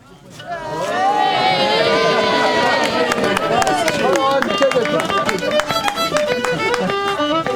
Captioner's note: general chatter; cheers and applause